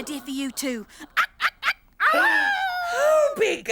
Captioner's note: Tula imitates Hollowbird